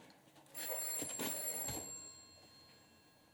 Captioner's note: telephone rings